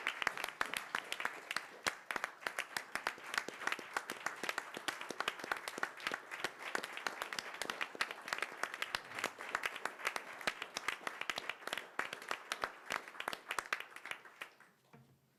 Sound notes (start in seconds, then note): 10.0 applause